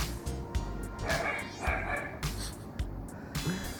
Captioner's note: dogs barking